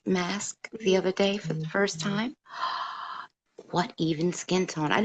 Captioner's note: gasp